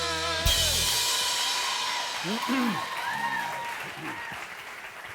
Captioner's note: cheers and applause